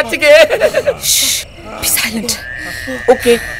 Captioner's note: Shushing